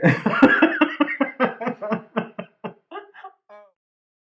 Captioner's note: laughter